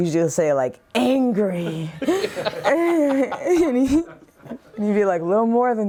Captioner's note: laughter